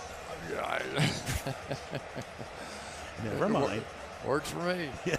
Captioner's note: laughter